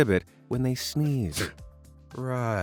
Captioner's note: person sneezing